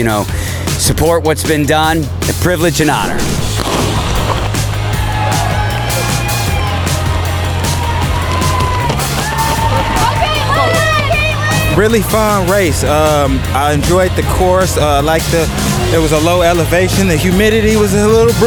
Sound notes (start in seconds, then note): 4.7 crowd cheering